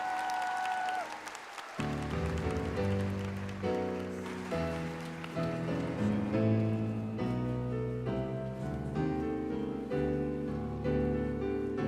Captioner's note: applause